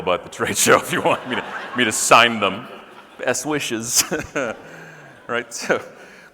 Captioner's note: laughing